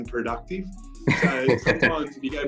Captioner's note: laughter